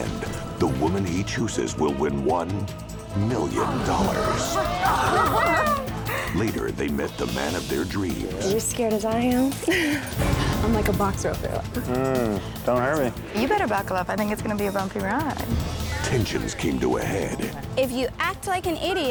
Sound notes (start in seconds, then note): 3.6 daters exclaiming; 9.6 chuckles